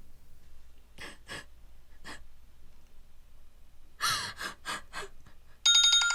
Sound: sobbing under the breath; cell phone ringing

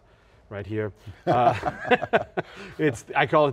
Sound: laughing

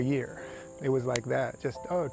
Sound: snapping

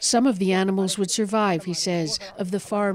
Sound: speaking alternate language

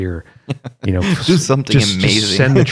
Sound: laughter

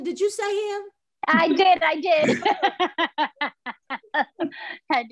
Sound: laughs

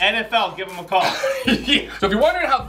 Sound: laughter

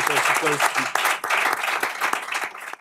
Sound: applause

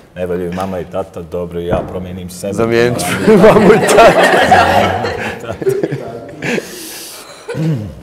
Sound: laugh

